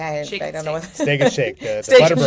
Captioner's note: chuckles